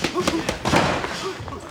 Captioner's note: men grunting